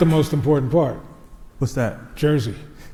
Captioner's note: crowd applauds